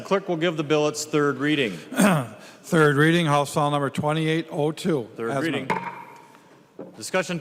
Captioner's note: gavel